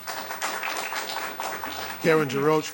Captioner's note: applause